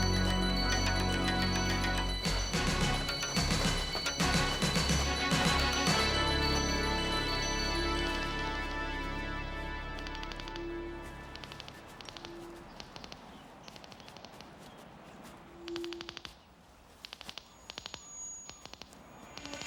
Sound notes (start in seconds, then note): 9.0 detectors clicking